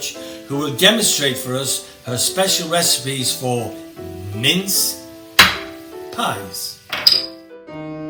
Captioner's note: gavel bang